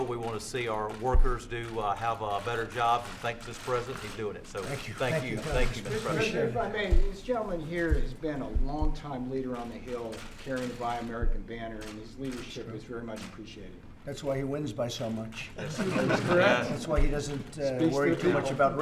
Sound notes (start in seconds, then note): 15.5 laughter